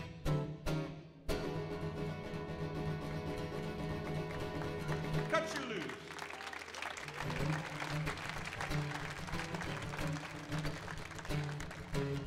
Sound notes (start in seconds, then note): 6.7 audience applauds